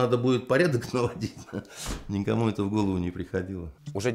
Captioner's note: laughs